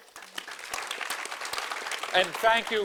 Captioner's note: audience applauding